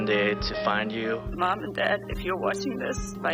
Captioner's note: voice trembling